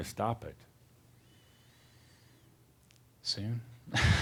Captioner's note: they chuckle